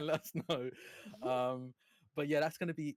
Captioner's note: chuckles